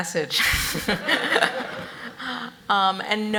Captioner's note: audience laughs